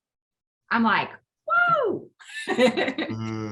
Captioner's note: chuckling